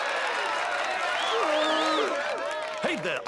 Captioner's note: applause and cheering; whistling